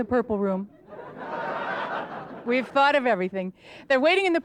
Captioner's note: audience laughter